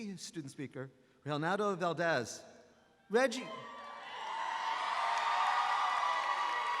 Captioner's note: graduates cheering